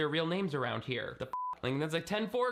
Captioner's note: beeping